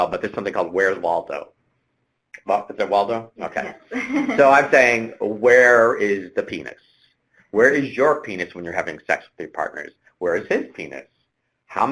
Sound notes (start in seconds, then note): 3.4 laughs